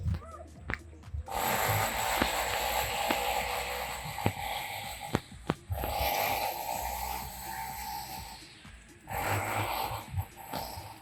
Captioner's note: drilling noise